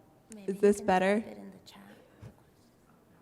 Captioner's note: voiceover